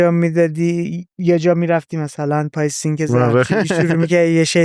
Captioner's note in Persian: خنده